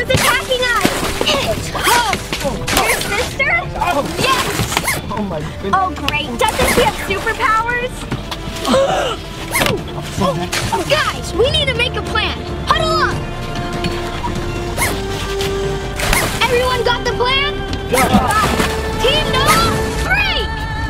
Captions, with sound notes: - Who's attacking us? - It's Hope! - Your sister? - Yes. - Oh great. Doesn't she have superpowers? (gasping) - Guys, we need to make a plan. Huddle up! Everyone got the plan? - Got it. - Team Noah, break!